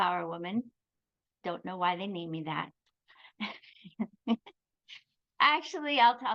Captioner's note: chuckles